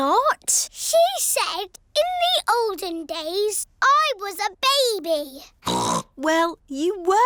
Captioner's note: snorts